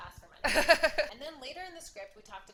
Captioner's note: laughing